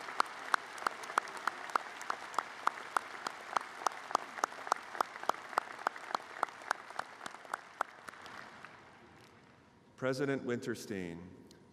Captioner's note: applause